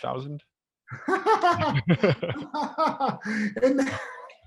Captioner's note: laughs